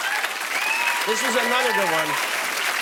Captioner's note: cheers and applause